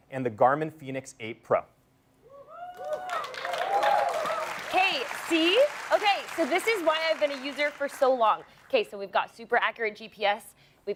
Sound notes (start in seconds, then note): 2.4 cheering